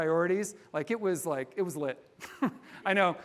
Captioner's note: chuckles